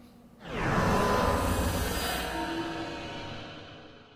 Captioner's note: metallic crescendo